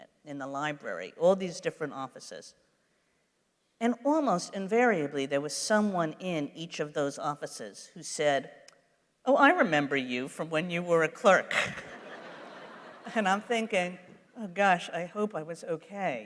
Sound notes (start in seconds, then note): 11.5 laughter; 11.6 laughs